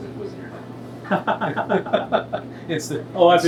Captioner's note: laughs